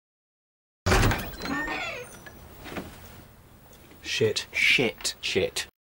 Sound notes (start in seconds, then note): 0.8 door opening and creaking